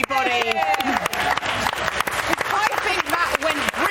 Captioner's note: applause that it's finally over